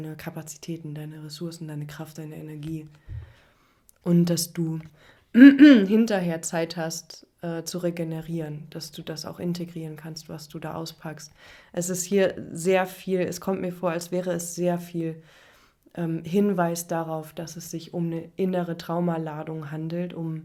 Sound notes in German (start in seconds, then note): 5.3 räuspern